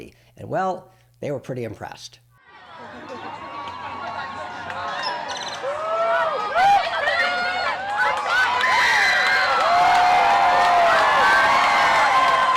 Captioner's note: very loud crowd noises